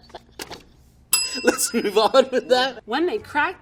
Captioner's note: bell rings